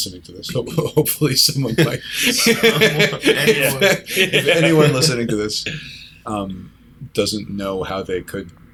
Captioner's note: laughter